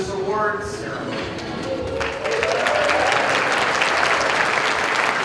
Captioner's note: applause